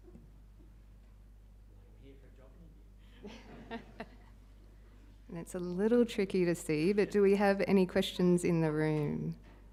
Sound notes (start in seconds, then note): 2.2 faintly speaking; 3.2 all laughing